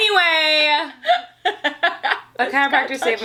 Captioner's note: laughs